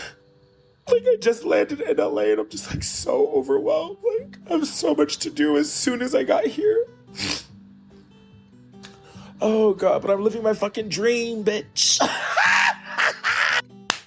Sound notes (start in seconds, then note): 7.1 sniffles; 12.0 laughs